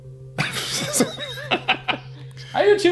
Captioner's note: laugh